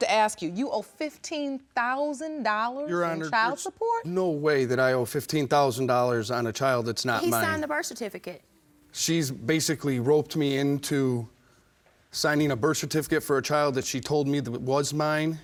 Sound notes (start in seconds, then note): none